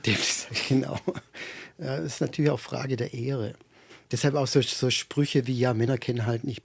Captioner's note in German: gelächter